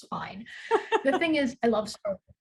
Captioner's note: laughs